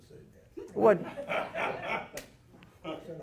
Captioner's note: audience laughing